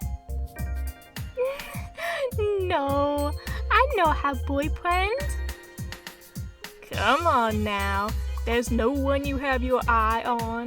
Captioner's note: laugh